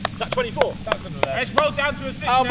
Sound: clapping

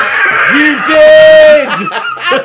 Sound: laughing

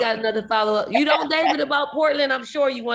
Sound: laughs

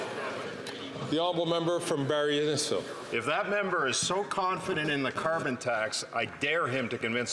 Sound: some Applause

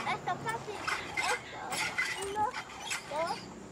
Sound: Poley screeching; girl counting off screen

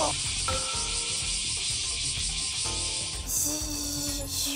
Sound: cry of Cicada

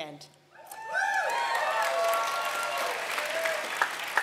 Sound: applause

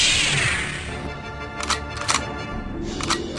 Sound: Lightsaber ignites; guns cocking

